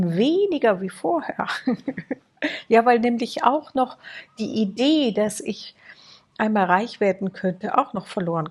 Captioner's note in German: gelächter